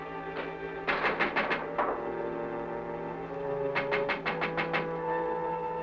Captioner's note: knocking on window